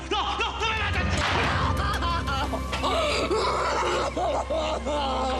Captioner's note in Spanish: llanto de ella